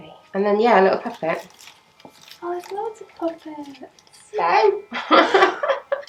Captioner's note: laughter